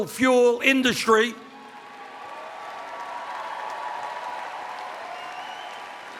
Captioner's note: cheers